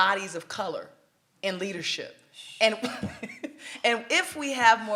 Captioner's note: laughs